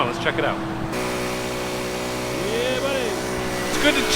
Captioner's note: tractor sound